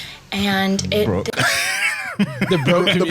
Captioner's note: laughs